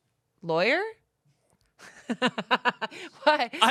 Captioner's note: laughs